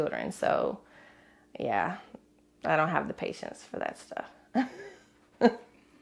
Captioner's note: laughs